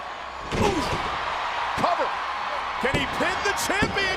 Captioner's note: audience cheering